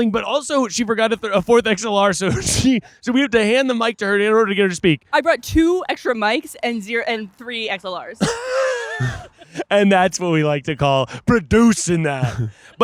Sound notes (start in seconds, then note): 8.2 laughing